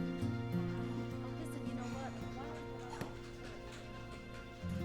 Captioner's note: indistinct chatter